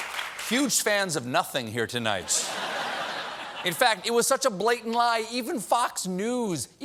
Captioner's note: laughter